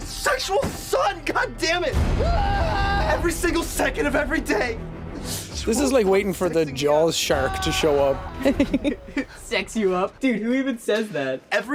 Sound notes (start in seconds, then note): 8.1 giggling